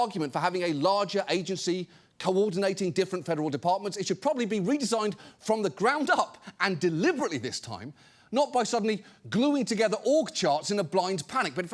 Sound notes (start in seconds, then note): none